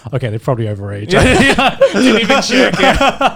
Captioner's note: laughing